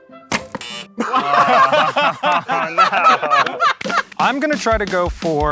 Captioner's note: laughing